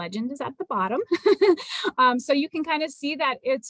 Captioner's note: laughter